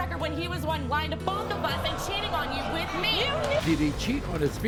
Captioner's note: audience groans